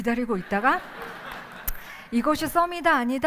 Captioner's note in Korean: 웃음